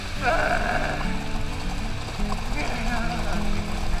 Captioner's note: groaning